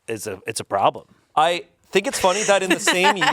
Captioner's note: laughs